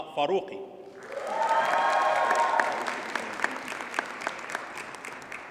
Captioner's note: audience cheers and applauds